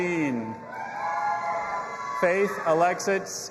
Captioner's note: audience applauding and cheering